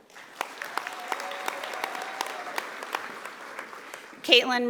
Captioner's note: audience applauding